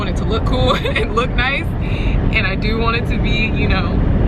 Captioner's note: laughs